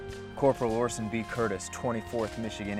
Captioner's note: voiceover